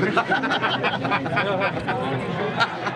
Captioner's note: laughter